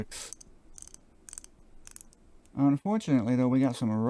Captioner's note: satisfying clicking sounds